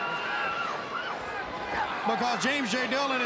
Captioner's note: crowd cheering